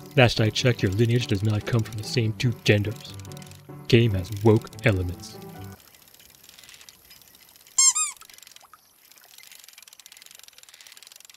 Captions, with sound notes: Last I checked, your lineage does not come from the same 2 genders! Game has woke elements. [Squeaky Hammer]